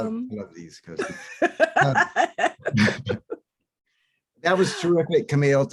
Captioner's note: both laughs